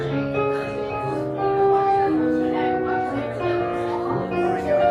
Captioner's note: guests chattering